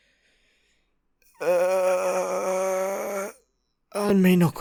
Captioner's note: pained and annoyed sounds